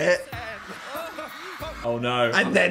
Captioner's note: Dan exclaiming